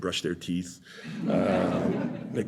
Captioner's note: laughter